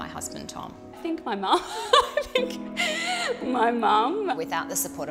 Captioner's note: laughs